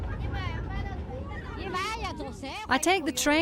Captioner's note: speaking in foreign language